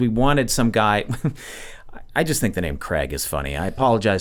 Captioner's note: chuckles